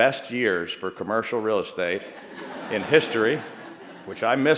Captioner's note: laughter